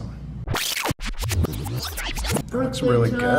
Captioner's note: tape rewinding